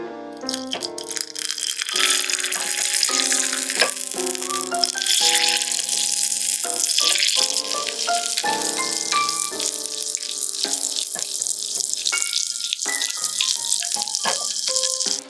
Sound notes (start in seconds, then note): 0.4 foaming browned butter sizzle